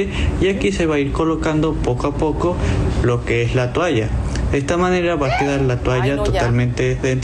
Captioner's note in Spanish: risas